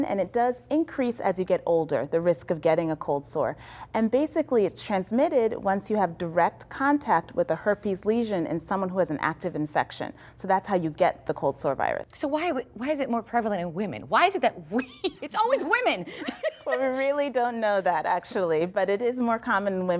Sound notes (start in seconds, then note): 16.0 laughter